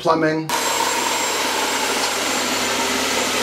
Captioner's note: sawing